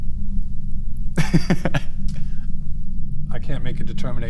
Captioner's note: laughs